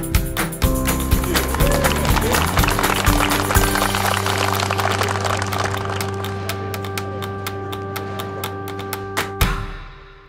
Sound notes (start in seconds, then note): 3.1 applause